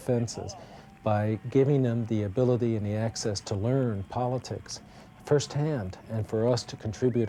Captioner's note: faint sound of conventioneers clapping/cheering